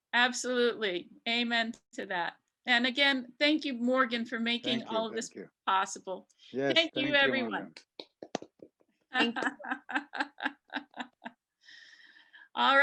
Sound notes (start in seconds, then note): 8.2 panelists clap; 9.1 laughs